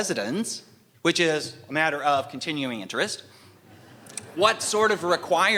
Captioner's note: laughter